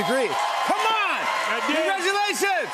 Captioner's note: cheers and applause